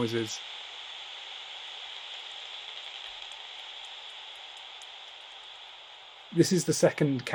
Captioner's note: static and faint clicks